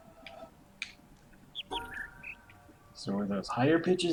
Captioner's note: bird chirps high-high-low-mid